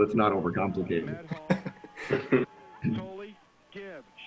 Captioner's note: all laugh